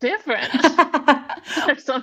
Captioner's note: laughing